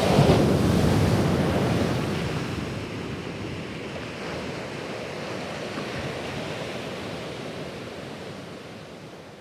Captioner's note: waves surging then crashing